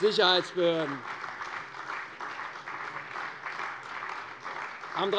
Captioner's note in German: Beifall bei der CDU und dem BÜNDNIS 90/DIE GRÜNEN